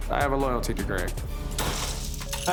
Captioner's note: ice cubes clicking